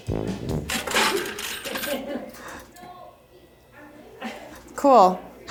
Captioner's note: quarters clank and producer chuckles